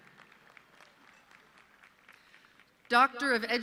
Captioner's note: audience clapping